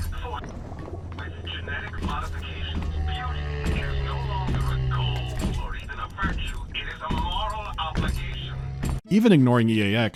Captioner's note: low, raspy moan of the Big Daddy